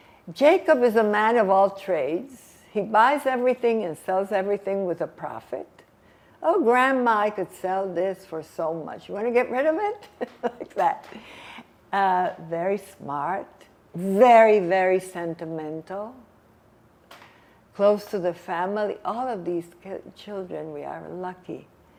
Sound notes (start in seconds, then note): 10.2 laughing